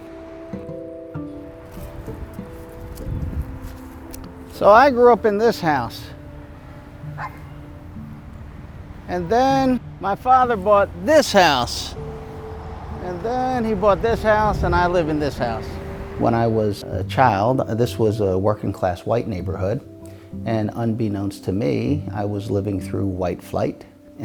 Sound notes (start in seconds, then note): 0.2 gentle music continues; 7.0 dog barks; 12.2 gentle music continues; 12.2 traffic humming softly